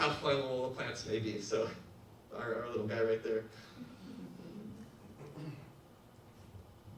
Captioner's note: audience laughs